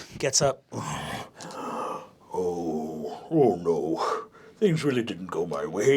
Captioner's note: groaning